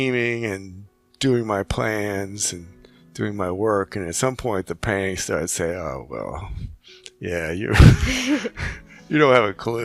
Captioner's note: laughing